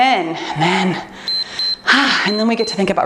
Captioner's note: timer beeps